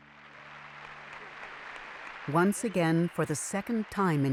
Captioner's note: applauding